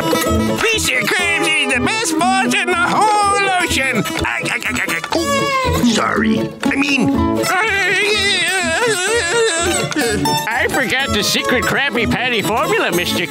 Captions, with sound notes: Mr. Krabs is the best boss in the whole ocean! [laughing] Oop! Sorry, I mean- [laughing like SpongeBob] I forgot the secret Krabby Patty formula, Mr. K.